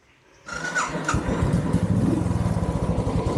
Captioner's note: bike engine starting